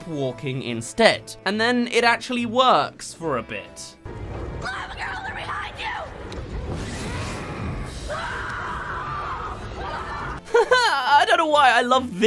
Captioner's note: they’re behind you, screams